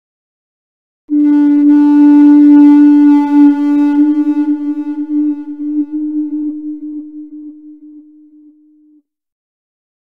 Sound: eerie sound

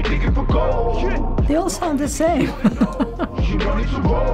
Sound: chuckles

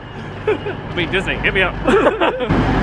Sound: both laugh

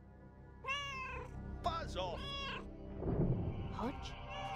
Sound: Hodge meowing; Hodge meows

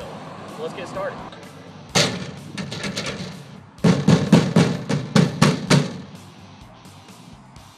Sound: slamming lid and banging on trailer

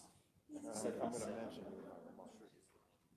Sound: members chattering

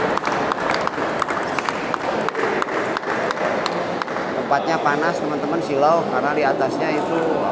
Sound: applause

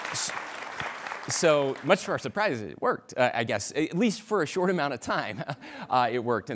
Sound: applause

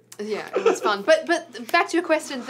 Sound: laughs

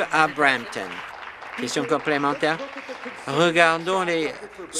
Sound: applause

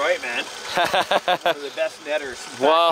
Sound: laughing

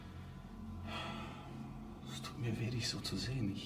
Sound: exhales

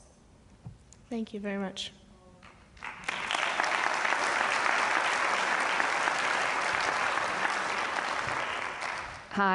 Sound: applause

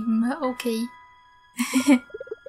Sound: laughter

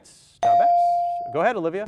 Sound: ding

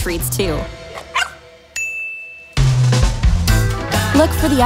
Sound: dog barks; bell chimes

